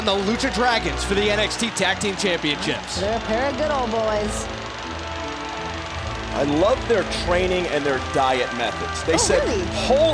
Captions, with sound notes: DRAGONS FOR THE NXT TAG TEAM CHAMPIONSHIP. >> THEY'RE GOOD OLD BOYS. >> [CROWD CHEERING] >> I LOVE THEIR TRAINING AND THEIR DIET METHODS. >> OH, REALLY?